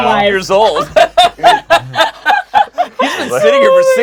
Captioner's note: everyone laughs